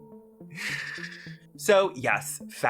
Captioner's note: awake sleep apnea sounds